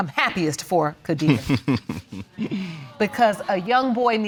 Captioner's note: chuckling